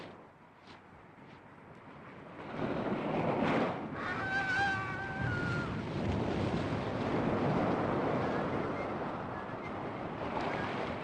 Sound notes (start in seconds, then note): 2.2 agonised scream; 6.4 whistling